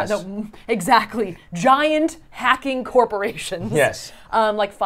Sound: chuckles

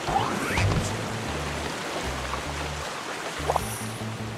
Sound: water sound; jump sound

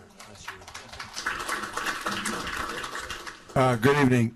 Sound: applauding

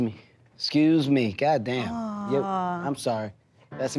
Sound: groans

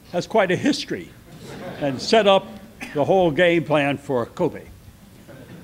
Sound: laughter; more laughter

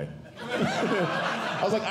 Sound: audience Laughing

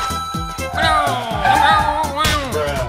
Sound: Shy Guy sounds

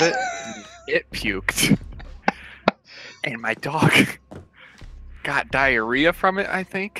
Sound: laughs

